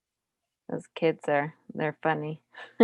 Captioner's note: laughs